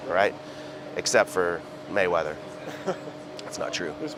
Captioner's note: chuckles